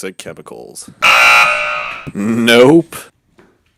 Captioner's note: negative Buzzer